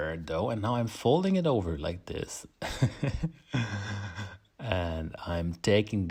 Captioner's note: laughs